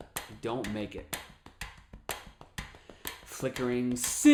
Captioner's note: tapping and ticking sound